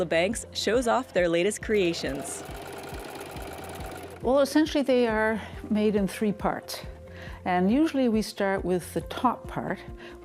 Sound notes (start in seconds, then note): 1.7 sewing machine